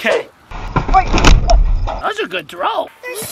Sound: rocks shattering

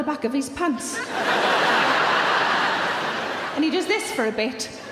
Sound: audience laughing

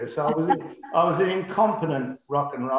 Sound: laughs

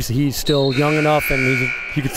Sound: whistle blows; buzzer dings

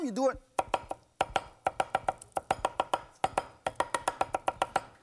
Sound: chops shrimp rhythmically

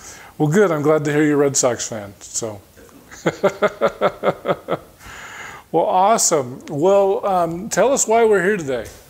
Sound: chuckling

